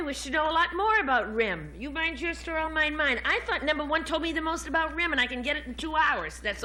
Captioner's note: none